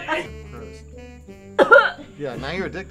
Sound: gagging

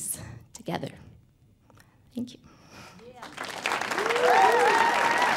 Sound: audience applauding

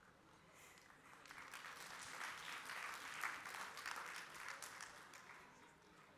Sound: applause

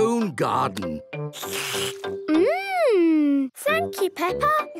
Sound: slurps

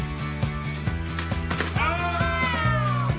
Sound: splat; cheering

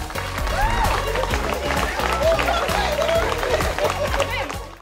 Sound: clapping

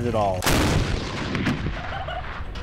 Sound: gunshot; laughter

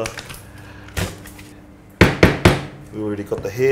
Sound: bangs knife on cutting board

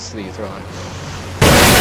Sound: deep inhale

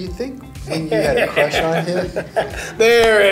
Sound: laughs

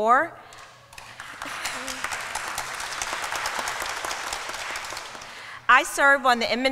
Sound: applause

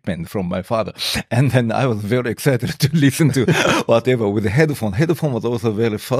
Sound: laughs

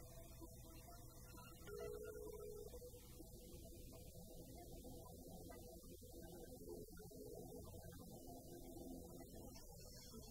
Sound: phone ringing

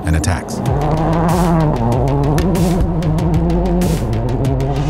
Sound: car engine revs

